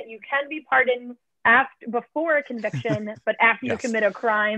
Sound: laughter

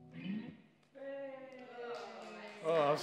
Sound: offscreen cheers and applause as song ends

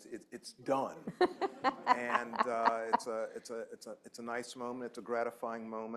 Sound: laughter

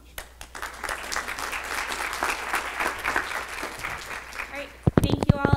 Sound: clapping

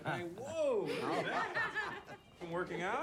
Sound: laughter

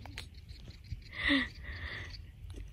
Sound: chuckles at the joey

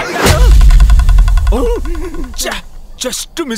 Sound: gasps

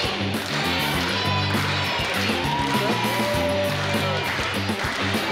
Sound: crowd clapping; crowd cheering " "

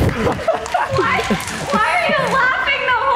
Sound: Derek laughs

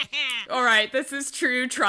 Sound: laughs

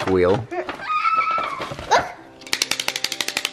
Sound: squealing; clapping

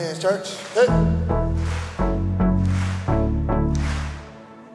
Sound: rhythmic clapping

